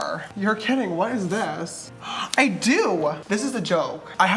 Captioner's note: gasp